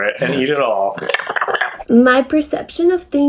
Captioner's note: american eating noises